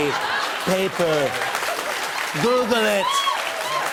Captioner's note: cheers and applause; applause